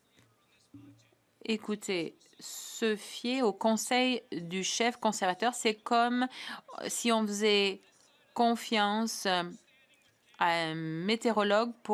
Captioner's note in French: voix de l'interprète